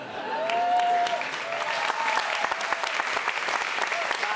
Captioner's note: audience applauds